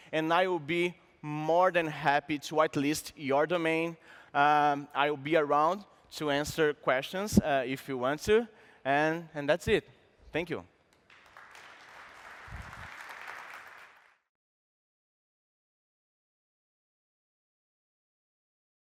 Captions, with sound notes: and I will be more than happy to whitelist your domain. I will be around to answer questions, if you want to. And that's it. Thank you. [APPLAUSE]